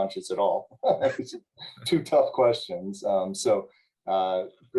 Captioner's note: laughter